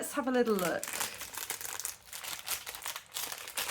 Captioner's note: rustling packet